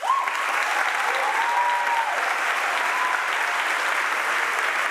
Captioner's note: audience applauds and cheers